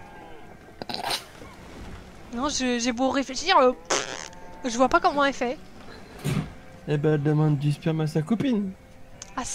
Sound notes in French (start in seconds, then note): 3.8 prrrt